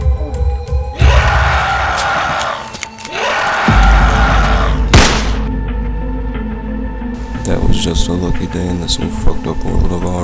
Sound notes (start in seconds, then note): 0.9 zombie Screeching; 4.9 gun Shot